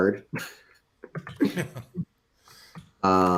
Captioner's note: laughs